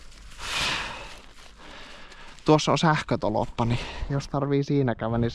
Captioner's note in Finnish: huokaus